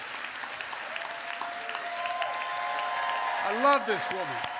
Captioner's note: applause